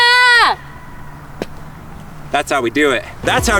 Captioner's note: flag banging